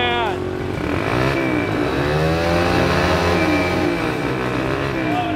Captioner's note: engine revving